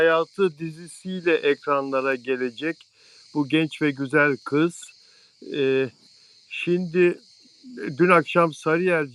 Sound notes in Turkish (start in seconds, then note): 3.9 homurdanır